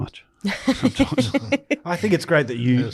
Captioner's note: group laughing